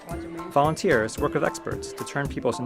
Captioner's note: voiceover